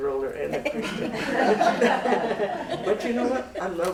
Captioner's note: laughter